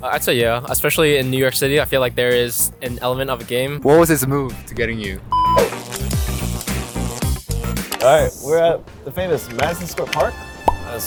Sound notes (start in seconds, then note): 5.3 beep; 5.3 air swoosh